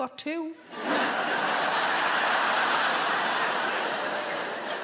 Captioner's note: audience laughing